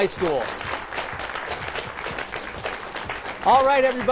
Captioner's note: applause